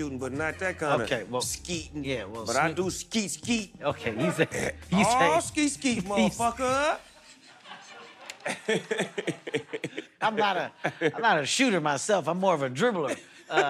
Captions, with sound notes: but not that kind of skeeting. But I do skeet-skeet. -Okay. -All skeet-skeet, motherfucker. [ Laughter ] -I'm not a shooter, myself. I'm more of a dribbler.